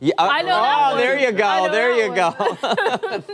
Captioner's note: laughter